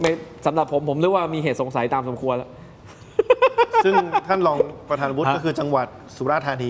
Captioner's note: laughter